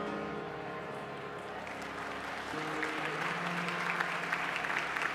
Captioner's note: applause